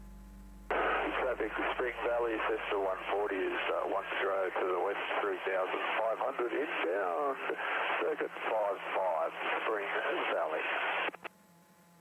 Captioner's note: transmission on wrong frequency